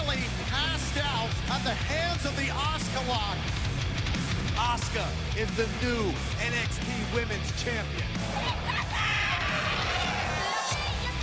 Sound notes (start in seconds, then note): 8.2 crowd cheering